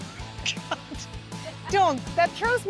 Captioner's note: laughing